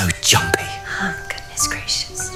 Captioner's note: under her breath